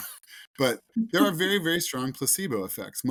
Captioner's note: laughs; host laughs